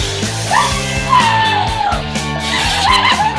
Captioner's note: sizzling, shrieking